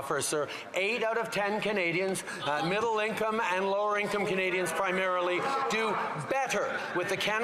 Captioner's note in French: voix de l'interprète